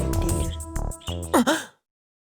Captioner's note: gasp